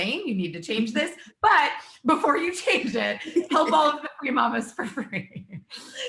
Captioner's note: both laugh